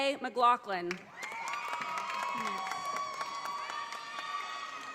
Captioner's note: audience applauding